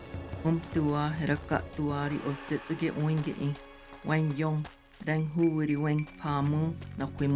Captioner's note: woman speaking Tewa